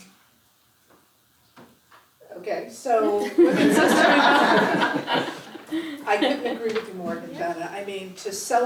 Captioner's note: laugh